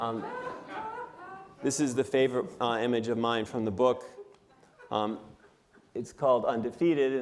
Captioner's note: laughter